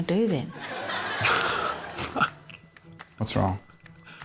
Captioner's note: laughs